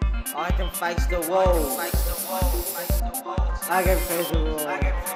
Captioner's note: spray can spraying